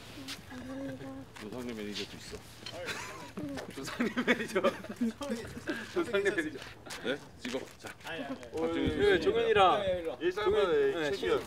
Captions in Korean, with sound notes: 아버님｜노상래 매니저도 있어 노상래 매니저(웃음)